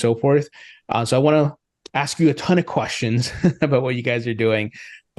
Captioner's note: laughs